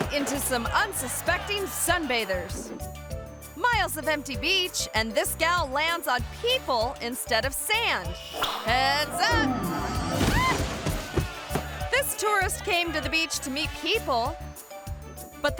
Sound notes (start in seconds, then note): 10.3 parasailor squeals